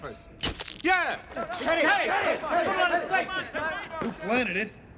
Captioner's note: screaming